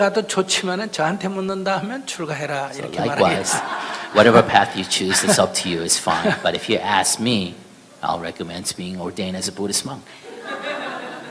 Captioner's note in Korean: 스님과 청중 웃음